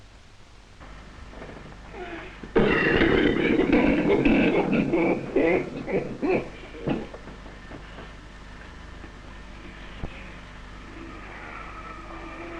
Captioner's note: coughs and wheezes